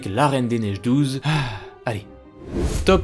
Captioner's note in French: soupir